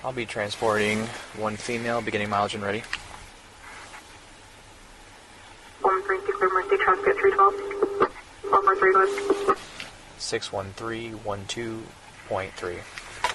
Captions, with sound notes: I'll be transporting one female Beginning mileage and ready (Radio chatter) (Radio chatter) 61312.3